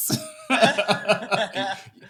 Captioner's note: laughing